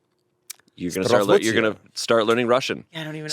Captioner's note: speaks Russian